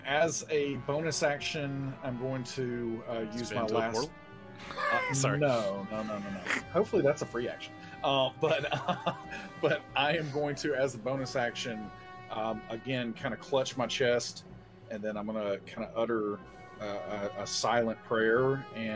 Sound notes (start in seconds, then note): 8.5 laughs